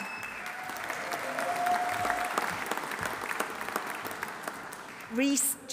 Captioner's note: audience applauding; audience cheering